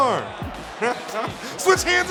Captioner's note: laughing